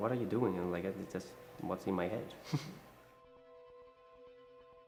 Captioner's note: chuckles